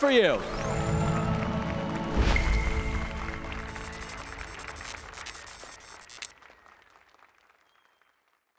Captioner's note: applause and cheers